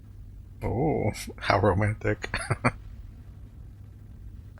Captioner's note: chuckling